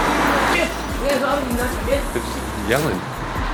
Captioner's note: men yelling